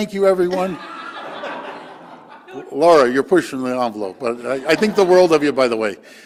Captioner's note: laughter